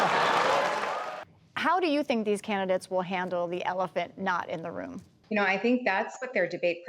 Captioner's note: laughter